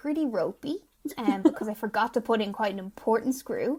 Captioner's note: laughing